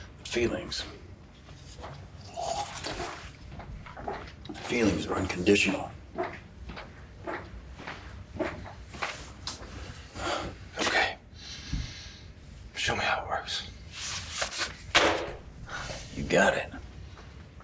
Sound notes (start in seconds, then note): 14.4 folder slaps